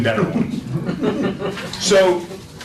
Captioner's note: laughter